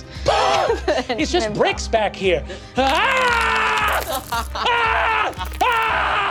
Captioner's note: screaming in agony